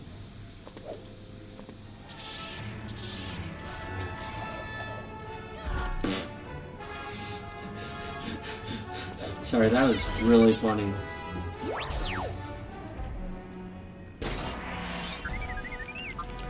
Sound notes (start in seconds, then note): 7.7 snort then laughter